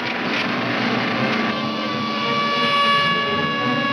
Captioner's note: siren wailing